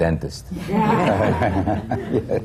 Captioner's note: laughter